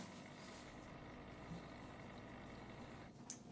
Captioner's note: aquarium hums